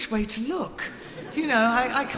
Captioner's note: audience laughing